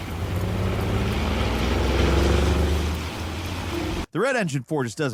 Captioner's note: car engine revving